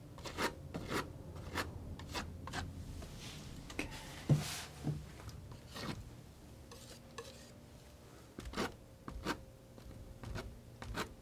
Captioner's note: scratching